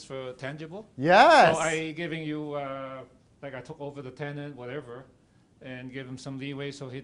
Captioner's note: crowd